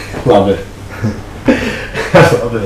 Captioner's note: laughing